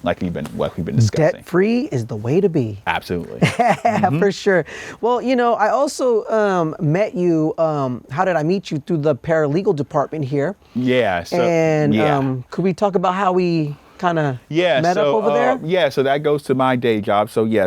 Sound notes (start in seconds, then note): 3.4 laughs